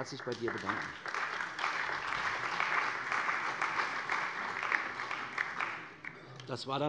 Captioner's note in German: Beifall bei der CDU und dem BÜNDNIS 90/DIE GRÜNEN